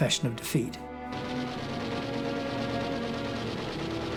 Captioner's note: gunfire